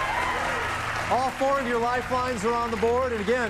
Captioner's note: applause